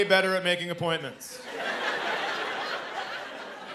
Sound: laughter

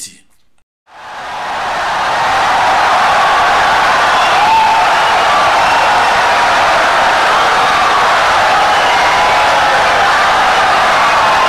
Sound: wild applause and cheering for 17 seconds

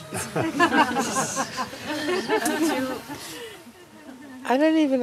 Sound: laughter

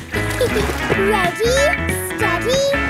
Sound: giggles

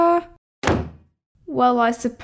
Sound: slam!

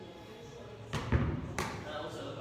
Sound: ball bounce

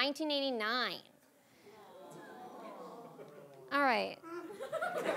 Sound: audience groaning

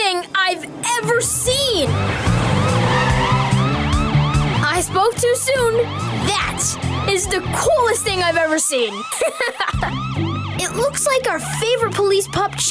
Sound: sirens Blare

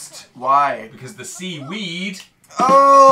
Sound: snaps; buh dum tss!

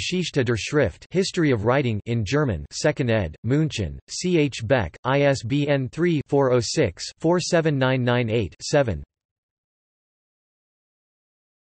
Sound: in German

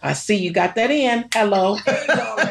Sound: snaps fingers

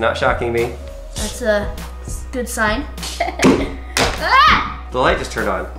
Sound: laughing and screaming

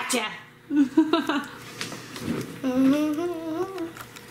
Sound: laughing

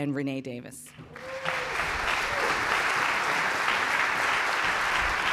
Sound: applause

